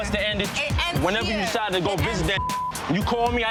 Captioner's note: beep